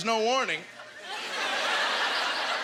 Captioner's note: audience laughter